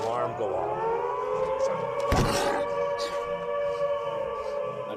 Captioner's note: snarls